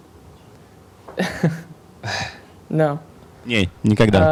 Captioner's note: cute laughing